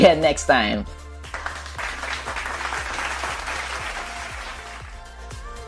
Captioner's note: clap